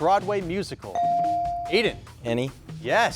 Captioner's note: bell dings